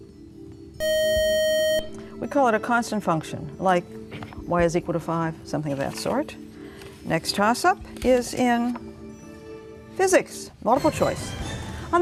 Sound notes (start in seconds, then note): 0.8 beeping